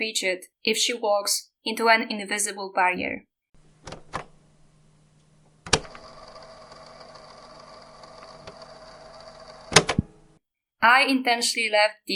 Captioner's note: cassette sound